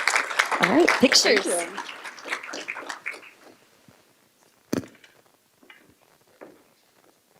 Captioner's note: applause